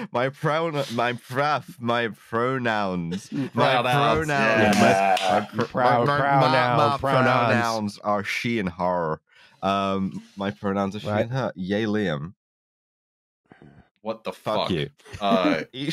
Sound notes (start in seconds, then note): 4.5 claps